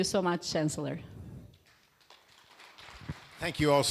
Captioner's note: applause